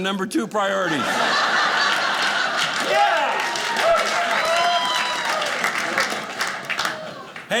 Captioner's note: audience laughing